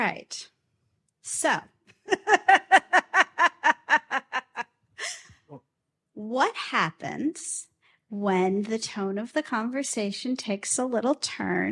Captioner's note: laughs